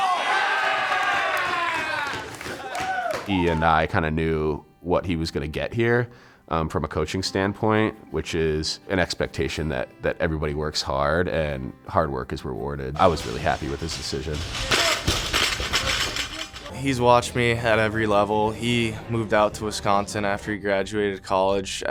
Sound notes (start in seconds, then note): 0.0 team cheering; 13.0 weights crashing